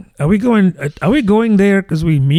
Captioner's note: uh